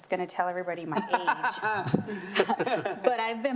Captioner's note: laughing